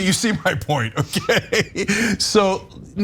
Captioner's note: laugh